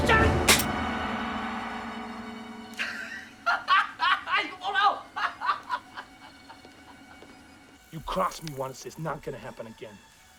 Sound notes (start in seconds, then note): 0.5 hammer Clicks; 3.4 laughs, Speaking Korean